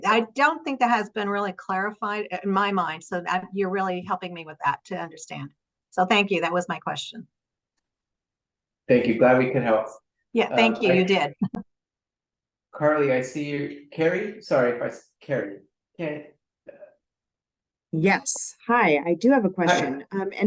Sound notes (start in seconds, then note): 10.6 chuckles